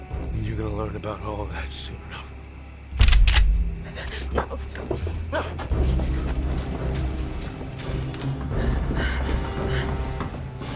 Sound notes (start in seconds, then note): 3.0 shotgun clicks; 6.4 suspenseful music